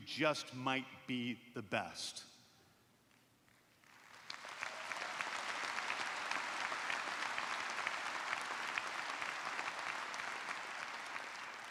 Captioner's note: applause